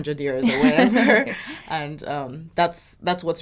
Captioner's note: both laughing